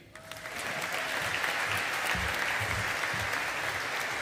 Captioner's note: audience applauding